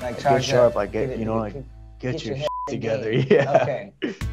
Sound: beep; laughs

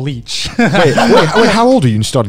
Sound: laughing loudly

